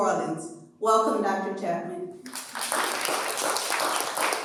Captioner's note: applause